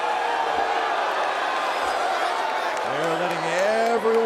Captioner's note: audience booing